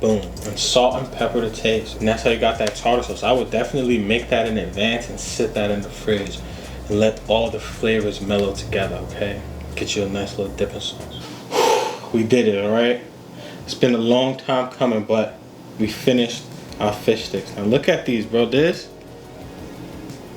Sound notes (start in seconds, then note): 11.0 exhales